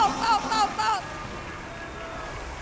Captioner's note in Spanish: Aplausos